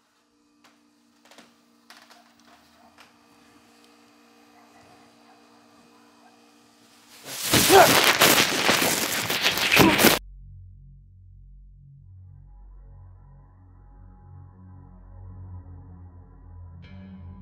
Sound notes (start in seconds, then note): 2.2 dogs barking; 7.1 garbage bag crinkles; 7.3 grunting and struggle; 14.6 ominous music